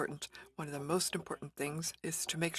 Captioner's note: speaking french